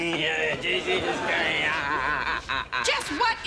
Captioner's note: yelling